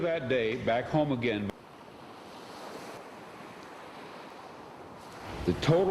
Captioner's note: ocean waves